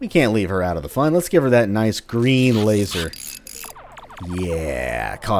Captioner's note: tinkering noises, electronic pew-pewing